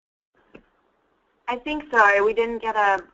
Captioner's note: voiceover